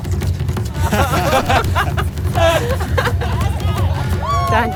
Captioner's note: riders laughing